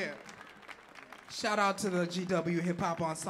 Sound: audience clapping and cheering

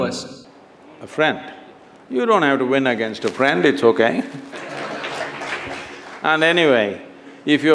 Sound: laughter/Applause

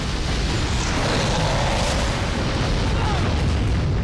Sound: Monster Ock roars

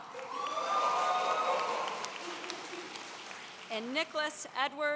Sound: audience cheering

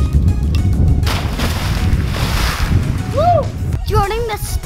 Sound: splash

